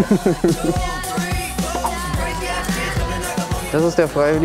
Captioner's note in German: Lachen, dynamische Musik